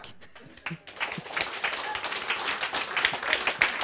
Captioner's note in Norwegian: Applaus